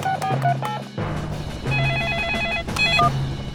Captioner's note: phone ringing; phone beeping